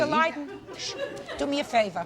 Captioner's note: people laughing